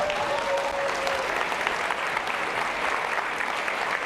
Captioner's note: applause